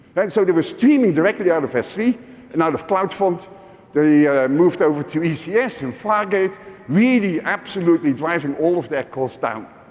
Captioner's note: none